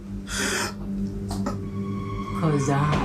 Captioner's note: Billy gaps